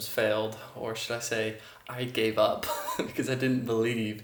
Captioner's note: chuckling